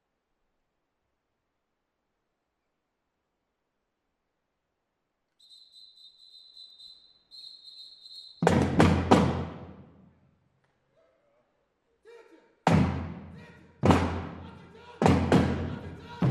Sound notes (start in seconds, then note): 5.3 whistle